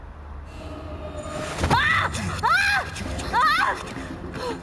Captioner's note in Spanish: grita